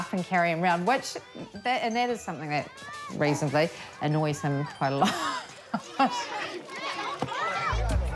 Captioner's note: laughs